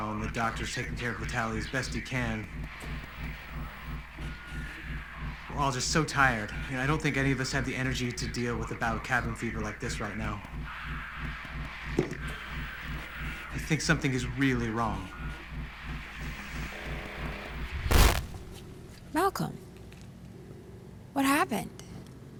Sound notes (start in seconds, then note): 17.4 static